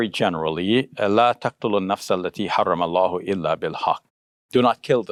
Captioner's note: speaking in foreign language